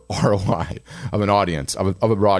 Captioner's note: laughing